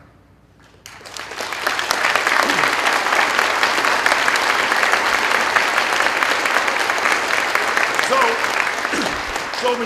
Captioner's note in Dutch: Applaus